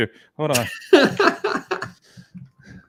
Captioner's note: laughs